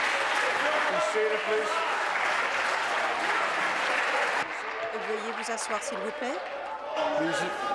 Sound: applause

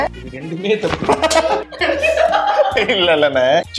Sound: laughs

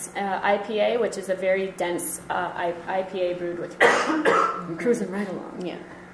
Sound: coughing drowns out speech

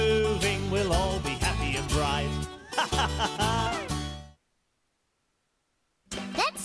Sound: laughs

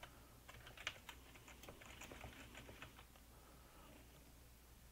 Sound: keyboard clicking

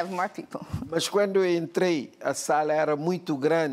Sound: speaking portuguese

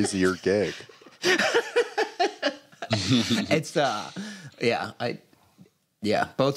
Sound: laughs

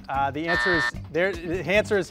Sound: buzzer beeps

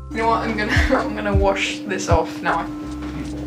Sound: laughs

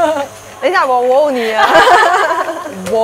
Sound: laughs

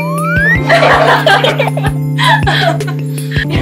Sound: bursts into laughter

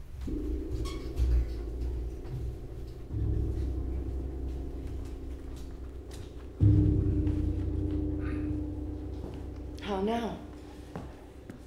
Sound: bell rings

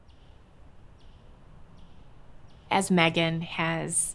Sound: bird chirps

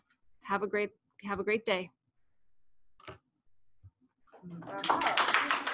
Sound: applause

